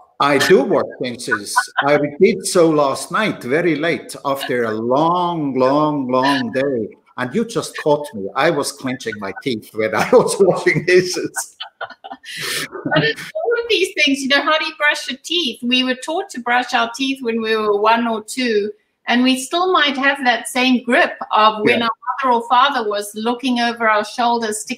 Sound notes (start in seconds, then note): 11.8 laughter